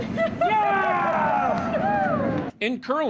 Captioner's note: players cheering